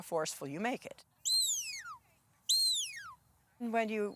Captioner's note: whistling